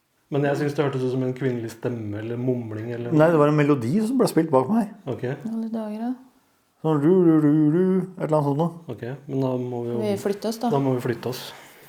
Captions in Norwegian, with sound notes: Men jeg syns det hørtes ut som en kvinnelig stemme, eller mumling eller noe... -Nei, det var en melodi som ble spilt bak meg her. -Okei? -I alle dager da. -Sånn... (etterligner melodi). Ett eller annet sånt noe. -Okei, men da må vi jo... -Skal vi flytte oss da? -Da må vi jo flytte oss.